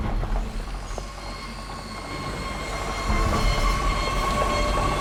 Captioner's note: heavy vehicles rumbling